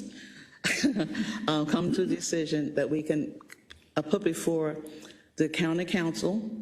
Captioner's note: laugh